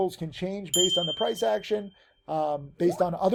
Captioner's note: bell rings